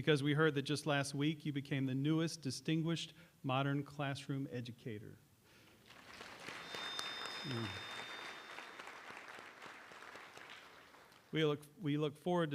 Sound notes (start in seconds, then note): 5.7 applause